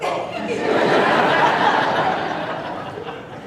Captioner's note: laughing